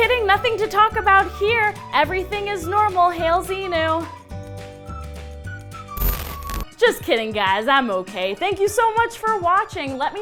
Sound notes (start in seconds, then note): 0.0 cheery music; 5.9 crackle